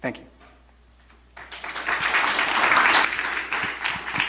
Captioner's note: applause